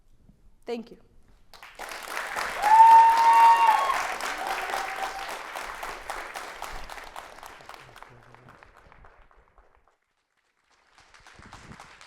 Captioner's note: clappping